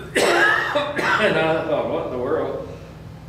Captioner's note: coughs